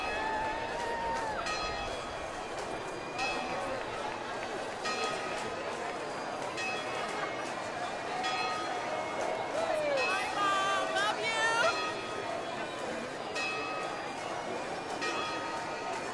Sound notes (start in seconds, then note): 12.1 chatter